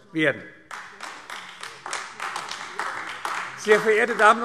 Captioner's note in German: Beifall AfD